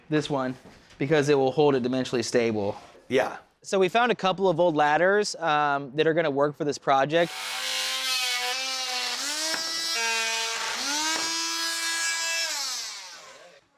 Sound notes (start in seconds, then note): 7.2 saw buzzing